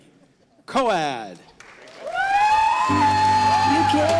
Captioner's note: audience applauding